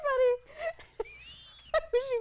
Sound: laughter

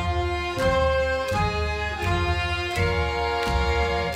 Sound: dancers clap; ukrainian folk music

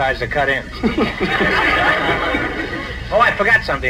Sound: audience laughs

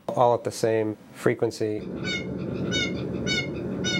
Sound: bird call

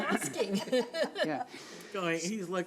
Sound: laughing

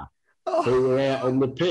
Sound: laughs

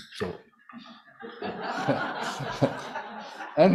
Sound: laughter

